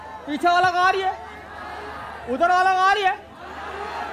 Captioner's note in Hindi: चियरिंग